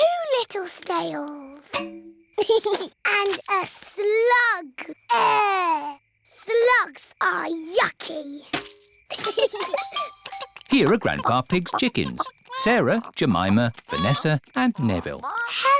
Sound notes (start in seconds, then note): 2.4 george giggles; 9.1 both giggle